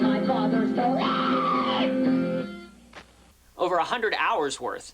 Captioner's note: screaming